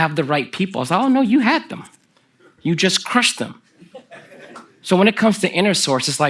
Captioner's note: laughter from the audience